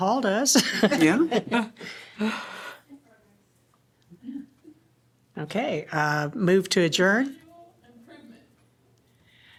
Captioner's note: laughter